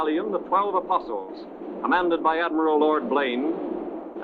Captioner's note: cannons blasting